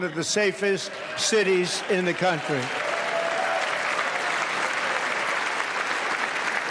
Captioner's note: applause